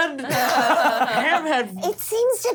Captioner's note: laughs